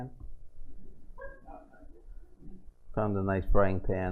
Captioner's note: laughter